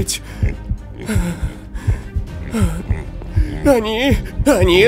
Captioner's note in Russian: растерянные вздохи